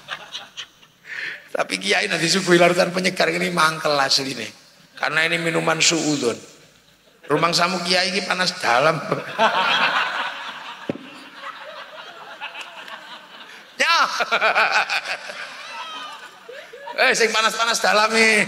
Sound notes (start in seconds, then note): 11.1 laughs